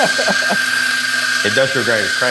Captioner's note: machine grinds espresso beans